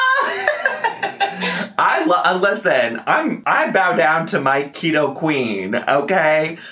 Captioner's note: laughs